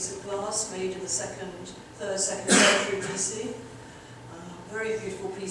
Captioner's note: audience member coughing